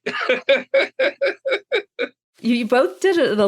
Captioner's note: laughs